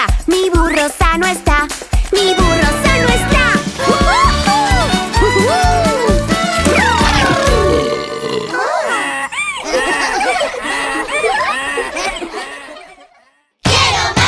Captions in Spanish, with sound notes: Mi burro sano esta, mi burro sano esta. (Música Alegre) (Gritos) (Sonido de burro) (Risas)